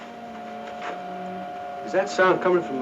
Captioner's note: high pitched whini